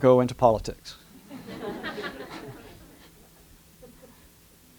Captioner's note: laughter